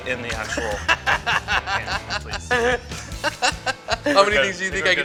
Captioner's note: laughter